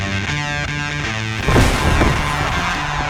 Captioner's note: table breaking; cheering